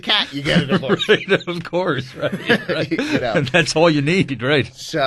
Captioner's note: laughs